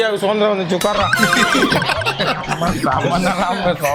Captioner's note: laughs